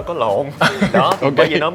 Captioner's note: laugh